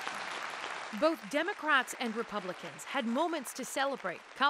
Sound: applause

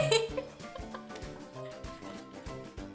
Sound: laughing

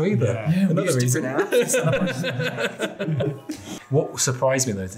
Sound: all laughing

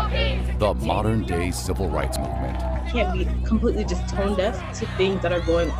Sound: chanting

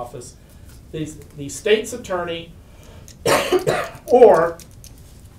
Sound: coughs

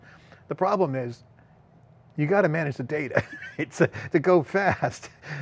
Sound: chuckles

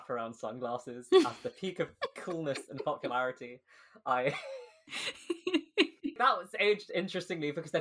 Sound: laughing; laughs

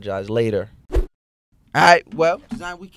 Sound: swooshing

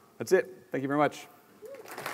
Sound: applause

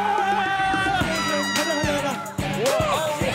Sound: cheering

